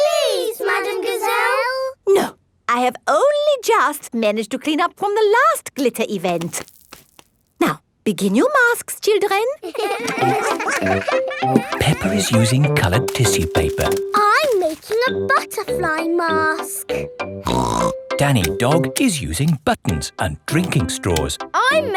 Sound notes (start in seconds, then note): 9.6 all giggling; 17.4 snorts